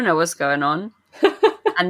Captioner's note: laughs